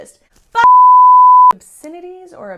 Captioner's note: beep